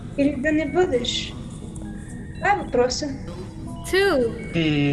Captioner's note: speaking in foreign language